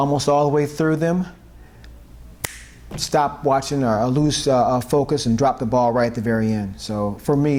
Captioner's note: snap